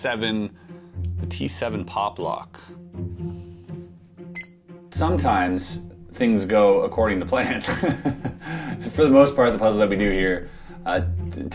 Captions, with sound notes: The T7 Popplock. [timer beeping] Sometimes things go according to plan. [laughing] For the most part, the puzzles I've been doing here